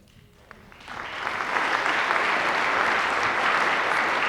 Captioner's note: applause